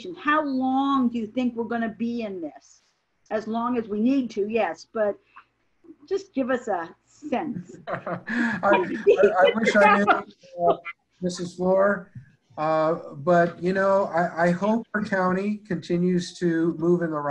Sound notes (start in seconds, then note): 7.6 laughing